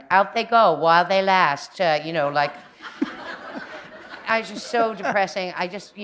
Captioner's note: laughter